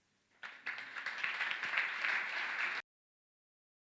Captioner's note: audience clapping